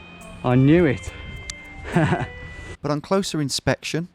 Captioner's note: laughs